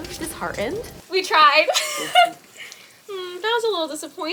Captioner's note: laughs